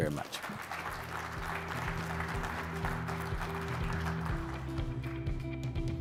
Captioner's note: audience applauding; bright music